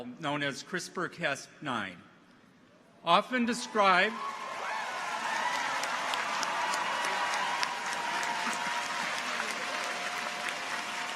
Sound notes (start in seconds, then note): 3.4 people cheer; 4.0 audience applauds